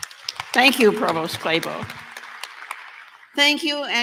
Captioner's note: applause